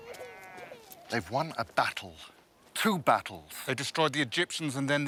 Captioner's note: baby crying